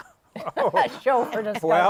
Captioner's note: laughing